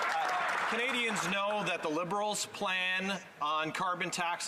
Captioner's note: applause